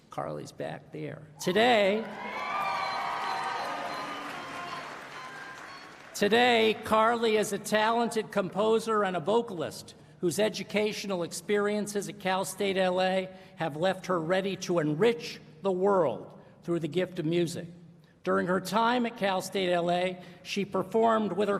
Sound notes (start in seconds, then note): 3.7 applause